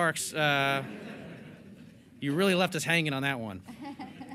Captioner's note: laughter